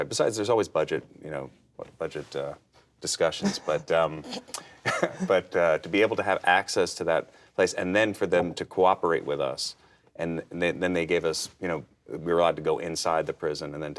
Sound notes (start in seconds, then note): 3.4 chuckles